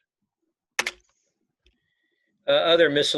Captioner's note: keyboard clicking